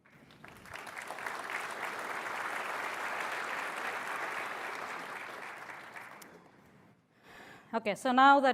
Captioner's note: applause